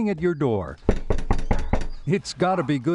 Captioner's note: door knocking